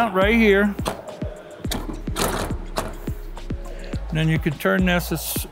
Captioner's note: mount thudding